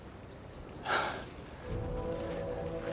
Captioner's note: sigh